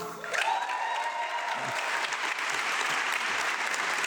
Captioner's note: audience clapping